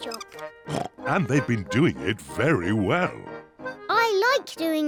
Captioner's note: oinks